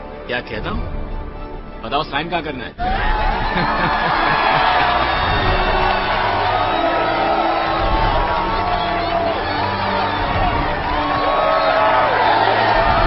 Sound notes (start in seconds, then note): 2.6 all cheering